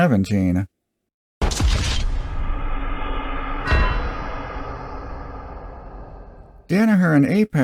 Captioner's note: GTA "Wasted" sound effect